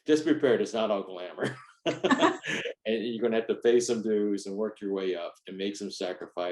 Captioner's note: laughs